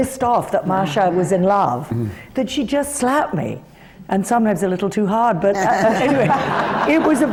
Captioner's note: laughter